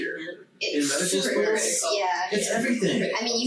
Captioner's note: group chattering